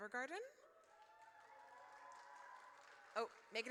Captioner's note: audience cheers